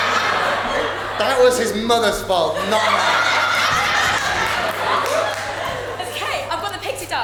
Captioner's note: audience laughs